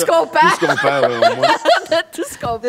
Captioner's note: laughs